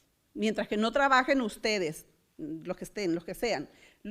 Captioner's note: foreign language